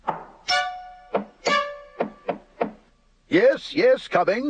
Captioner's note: knocking on door